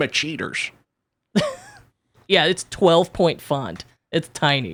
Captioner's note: laughs